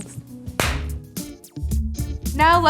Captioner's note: hands clapping